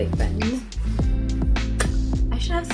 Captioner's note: mouth pop